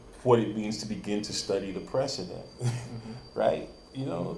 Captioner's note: chuckles